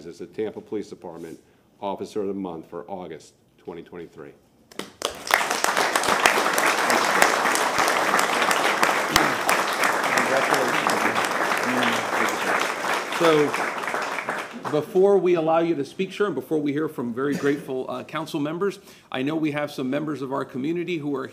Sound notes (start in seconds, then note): 7.0 applause